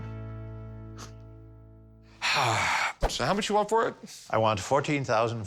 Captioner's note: sighs